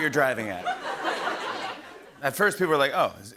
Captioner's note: laughter